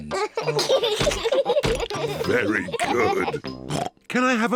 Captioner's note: laughs; both laugh